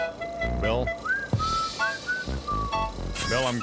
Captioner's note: <i> WHISTLES</i>